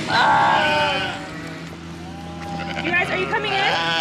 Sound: sheep baas; sheep baas

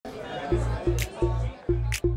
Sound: crowd chattering

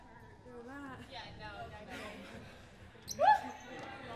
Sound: soft chatter

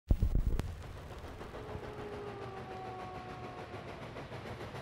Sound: train engine

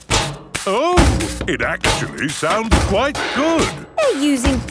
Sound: rhythmic clanging

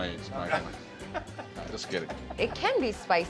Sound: laughing

